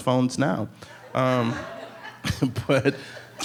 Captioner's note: audience members laughing